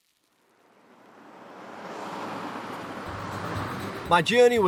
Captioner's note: cars humming; lighthearted music